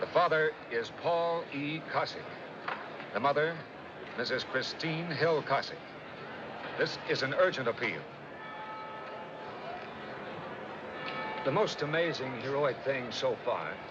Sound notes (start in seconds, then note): 8.4 bell Tolling